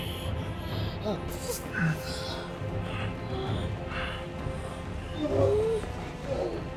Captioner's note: soft tense orchestral music; Rob groaning fearfully